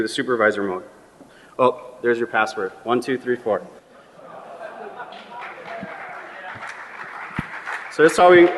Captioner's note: laughter and applause